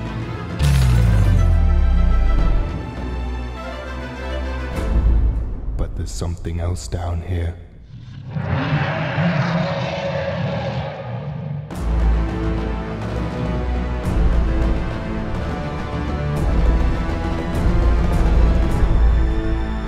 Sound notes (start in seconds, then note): 0.6 crash; 7.8 roaring